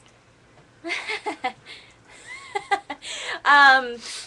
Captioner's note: laughter